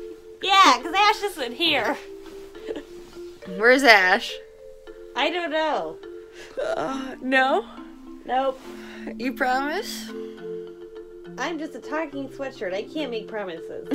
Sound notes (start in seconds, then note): 6.4 yawns